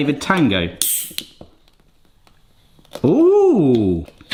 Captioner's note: air releasing